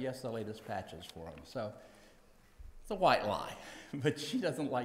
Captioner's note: laughs